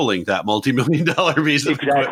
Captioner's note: chuckles